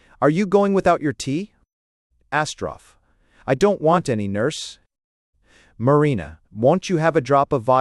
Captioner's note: hesitatingly